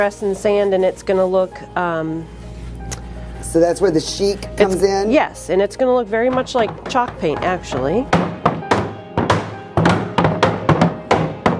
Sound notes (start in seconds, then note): 7.7 banging on wood